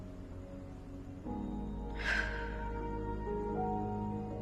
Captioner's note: exhaling sharply